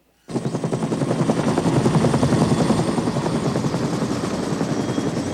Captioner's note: helicopter blades whirring